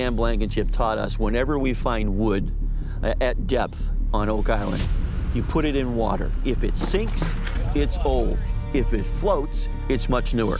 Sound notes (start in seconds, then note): none